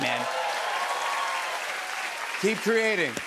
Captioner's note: cheers and applause